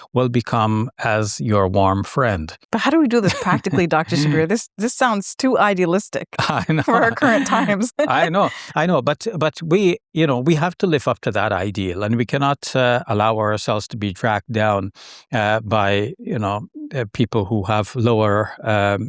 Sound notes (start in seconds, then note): 3.2 laughing; 6.4 laughing